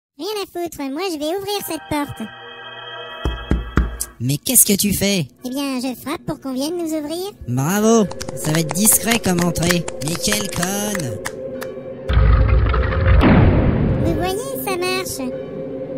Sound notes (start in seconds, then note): 1.3 suspense music; 3.2 the Elf knocks on the door; 8.0 the group claps